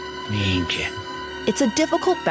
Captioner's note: speaks in Italian